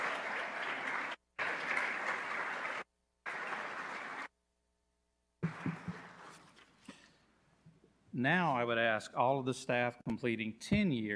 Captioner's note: applause